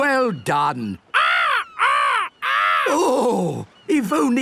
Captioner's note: seagulls cries